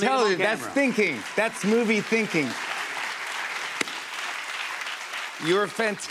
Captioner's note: applause